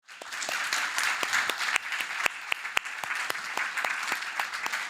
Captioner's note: audience applauding